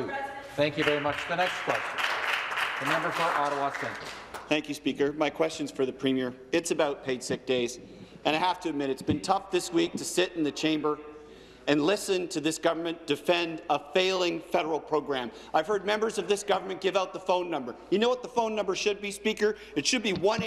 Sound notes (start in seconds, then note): 5.6 some Applause